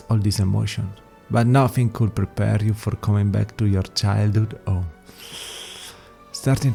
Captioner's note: sigh